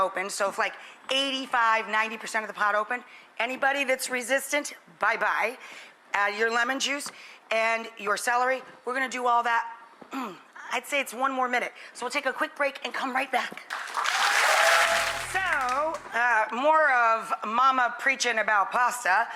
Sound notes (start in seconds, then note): 10.1 clears throat; 13.6 audience applauds